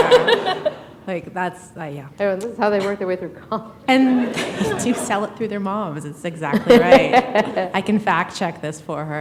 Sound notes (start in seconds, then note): 4.1 laughter